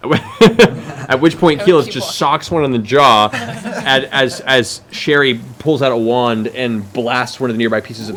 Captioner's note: laughs